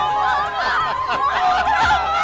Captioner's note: crowd chants for Barack Obama; laughs